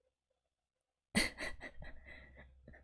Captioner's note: laughs